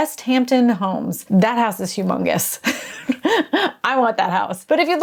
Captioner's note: laughing